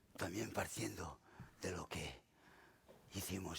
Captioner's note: speaking spanish